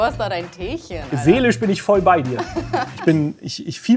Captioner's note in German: Sie lacht